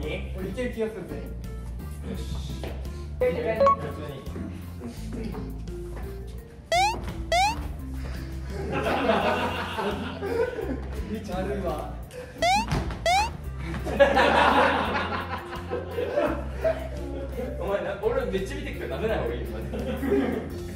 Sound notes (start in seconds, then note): 7.3 sound effect:hoping; 13.0 sound effect:bouncing